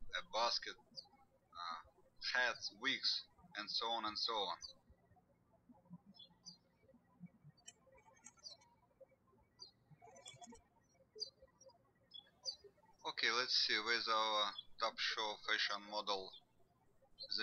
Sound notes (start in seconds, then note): 4.8 birds chirping